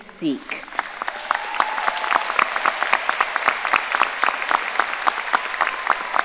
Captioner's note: audience applauding and cheering